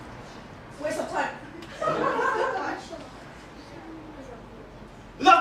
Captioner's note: laughter, inaudible